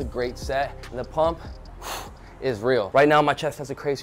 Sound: exhales

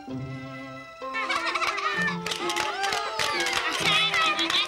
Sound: applause

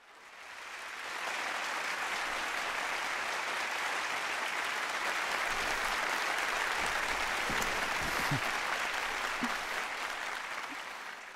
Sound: clapping

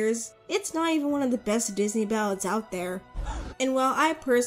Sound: gasping audience

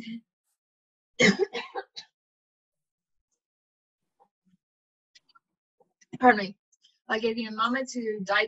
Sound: coughing

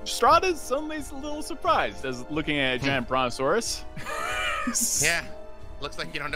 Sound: laughs

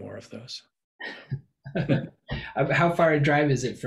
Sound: laughing

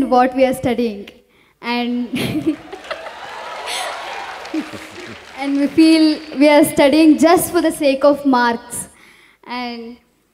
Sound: laughs; cheers

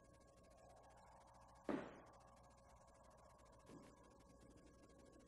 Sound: footsteps approaching

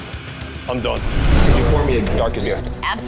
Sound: scene whooshing

